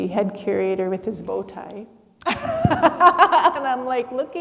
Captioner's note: laughs